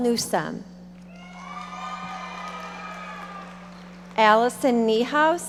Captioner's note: audience cheering and applauding